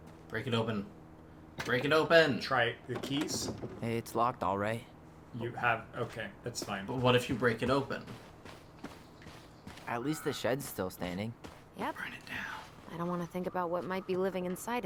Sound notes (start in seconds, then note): 12.1 whispering